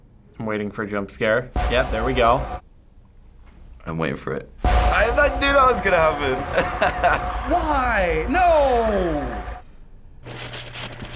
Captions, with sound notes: - I'm waiting for a jump scare. Yeah, there we go. - I'm waiting for it. I knew that was gonna happen! (laughs) - Why? No!